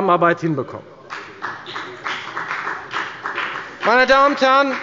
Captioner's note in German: Beifall bei der FDP